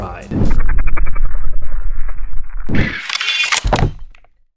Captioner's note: woosh and clicks